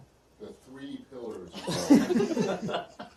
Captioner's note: laughter